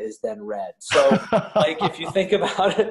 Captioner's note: laughs